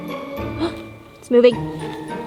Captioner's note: gasps